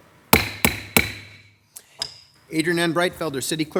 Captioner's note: gavel pounding